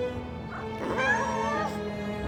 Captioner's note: squeals